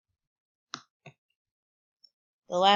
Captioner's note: click